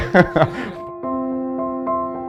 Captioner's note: laughs